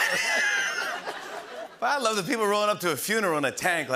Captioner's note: laughter